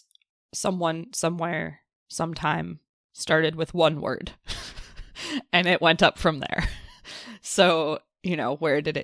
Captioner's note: laughs